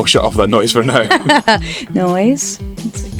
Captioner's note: laughter